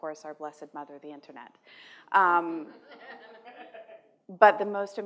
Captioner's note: laughter